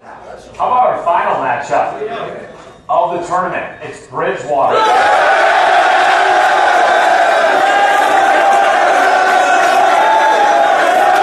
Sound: cheering

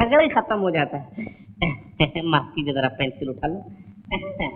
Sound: chuckles

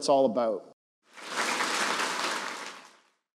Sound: group claps

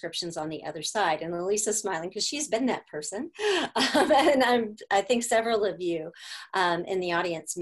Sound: laughter

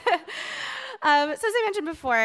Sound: laughs

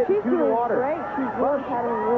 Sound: rain

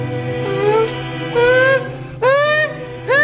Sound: wimpering

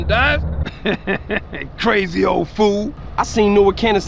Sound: laughs

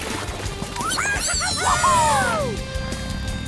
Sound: cheering

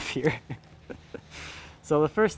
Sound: laughs

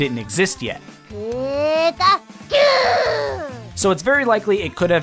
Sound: Pikachu crying out "Pikachu"

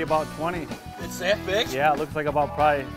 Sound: voiceover

